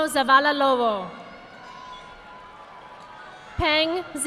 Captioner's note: audience applauding